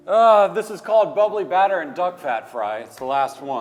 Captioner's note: grunts